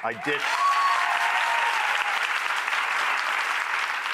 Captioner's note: audience cheering